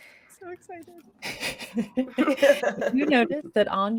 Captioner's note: chuckling